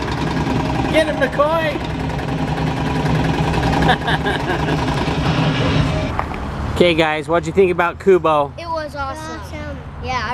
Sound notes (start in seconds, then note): 3.6 laughs